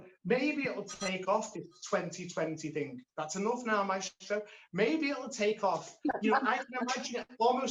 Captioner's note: phone rings